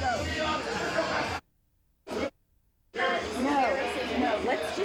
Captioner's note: muted